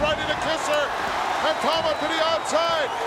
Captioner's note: audience cheering